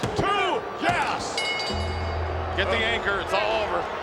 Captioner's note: bell ringing